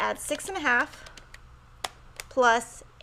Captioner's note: keys clicking